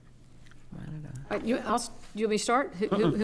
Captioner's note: stammers